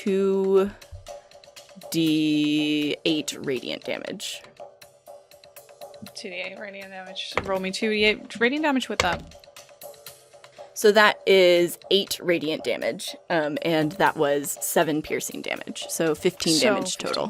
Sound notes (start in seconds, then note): 9.0 dice clunks